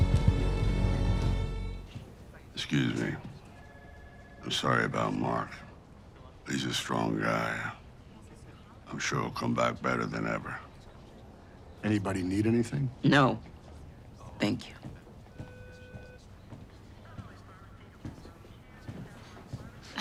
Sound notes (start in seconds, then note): 3.5 phone ringing in background; 15.3 loud speaker beeping; 17.1 staff speaking over loud speaker